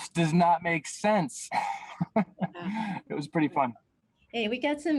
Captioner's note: chuckles